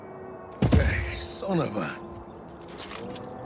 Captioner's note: body thuds